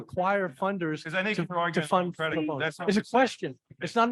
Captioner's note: both chattering